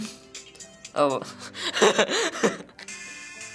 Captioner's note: laughs